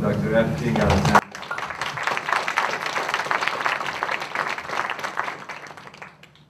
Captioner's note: applause